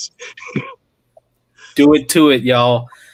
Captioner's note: laughing